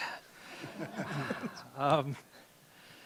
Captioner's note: laughter